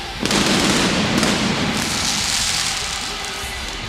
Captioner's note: applause